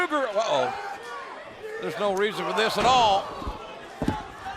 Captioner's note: crowd chatter